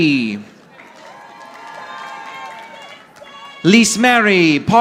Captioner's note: audience applauding